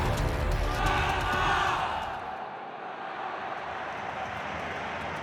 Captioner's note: crowd cheering